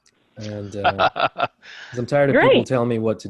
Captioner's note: laughing